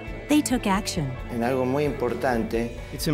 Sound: speaking spanish

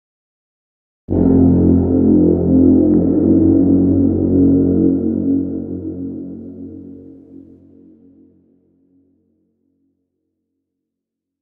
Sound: sound of horn

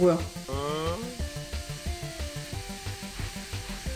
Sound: boiling

